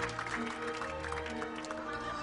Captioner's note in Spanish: Aplausos